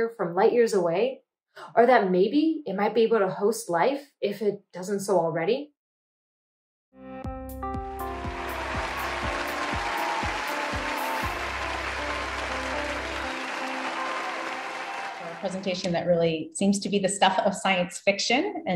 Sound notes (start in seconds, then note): 7.2 upbeat music; 8.0 audience applauding